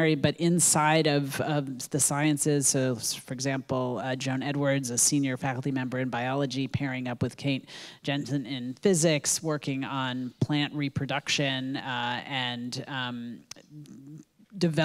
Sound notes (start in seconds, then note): none